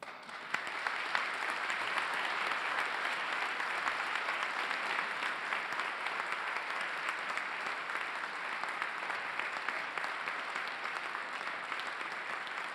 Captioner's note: applause